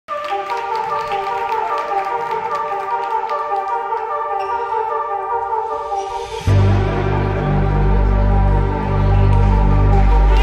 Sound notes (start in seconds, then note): 0.0 audience clapping; 0.2 dynamic music; 4.3 floor squeaking